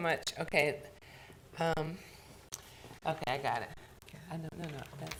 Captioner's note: board chatting quietly